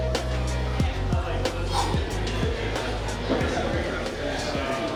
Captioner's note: chattering